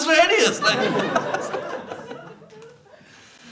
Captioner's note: laughter